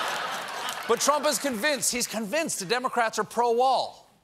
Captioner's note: laughter